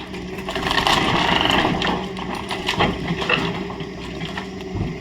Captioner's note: angry excavator noises